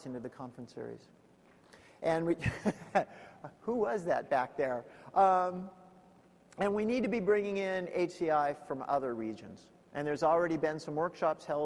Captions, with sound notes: into the conference series. And we (laughs) who was that back there? And we need to be bringing in HCI from other regions. And there's already been some workshops